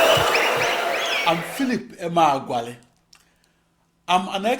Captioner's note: wild applause and cheering for 22 seconds